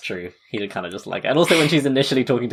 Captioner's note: laughs